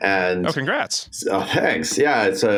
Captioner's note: laughs